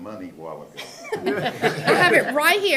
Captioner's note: laughter